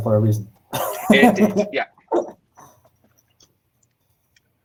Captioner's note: laughing